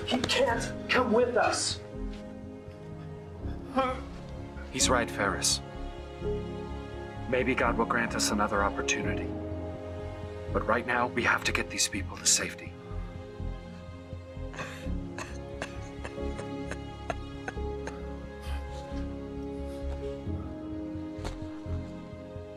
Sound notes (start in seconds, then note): 15.2 Danae weeps; 18.7 quiet instrumental music